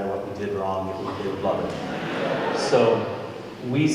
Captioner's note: audience Laughing